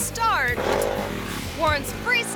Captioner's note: motorbike revs; ramp clangs